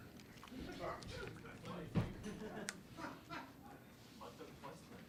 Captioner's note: reporters chatting